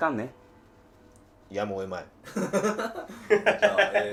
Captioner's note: laughing